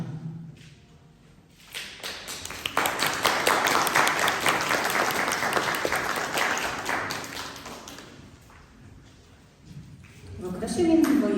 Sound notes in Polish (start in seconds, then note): 1.8 głośne brawa